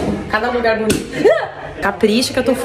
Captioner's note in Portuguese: susto